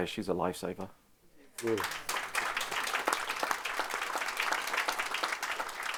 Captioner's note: audience applauding